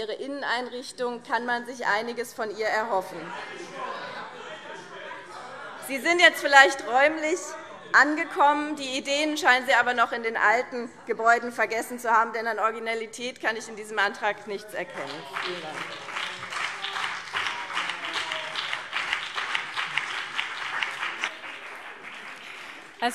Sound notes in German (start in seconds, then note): 3.1 Widerspruch Freie Demokraten; 14.9 Beifall BÜNDNIS 90/DIE GRÜNEN und CDU